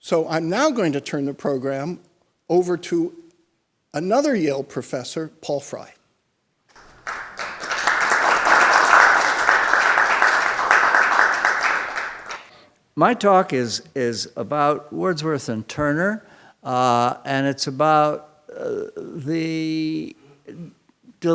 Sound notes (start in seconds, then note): 6.8 audience applauding